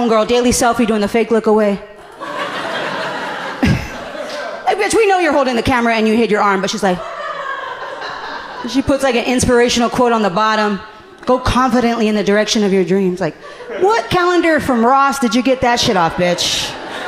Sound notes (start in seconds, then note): 2.0 laughing; 2.0 audience laughing knowingly